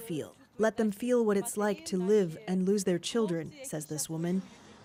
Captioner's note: speaking alternate language